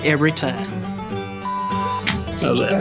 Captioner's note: beeps